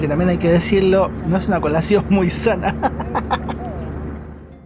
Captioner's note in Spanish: risas